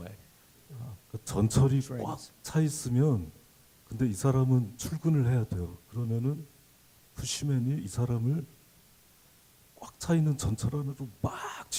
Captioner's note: speaking Korean